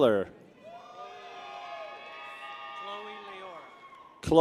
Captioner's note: people cheer